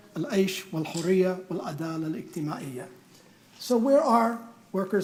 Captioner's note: speaking in foreign language